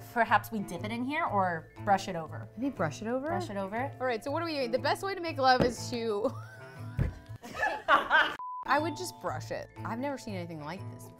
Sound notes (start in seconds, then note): 7.4 laughs; 8.4 beep; 10.7 ding